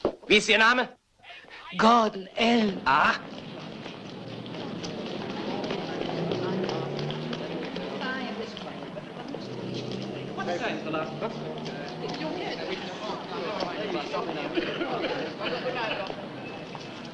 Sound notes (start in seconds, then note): 1.8 sighs; 4.2 chattering